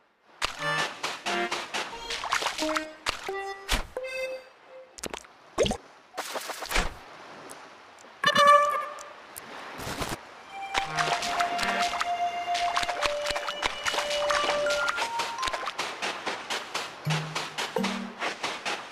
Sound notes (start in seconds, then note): 0.4 footsteps; 10.7 steps in the water; 15.0 footsteps